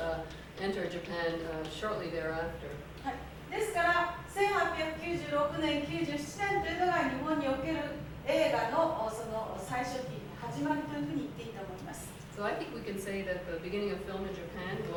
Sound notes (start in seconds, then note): 3.6 speaking Japanes